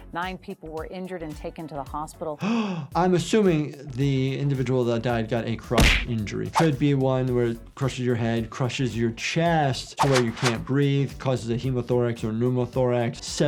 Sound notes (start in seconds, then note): 2.4 gasps